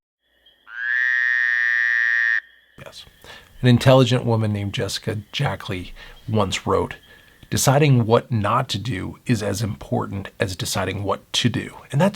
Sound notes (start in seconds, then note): 0.3 frog croaking